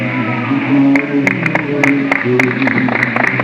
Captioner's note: applause